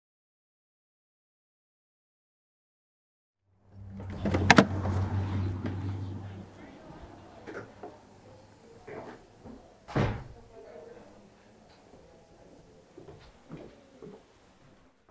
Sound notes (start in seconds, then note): 3.8 creaky door opens and shuts; 11.2 muffled footsteps